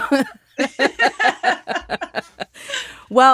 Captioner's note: laughter